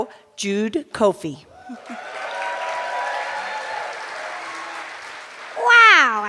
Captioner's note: cheers and applause